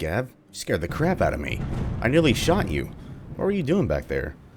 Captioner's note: thunder rumbling